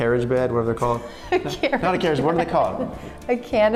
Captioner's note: laughs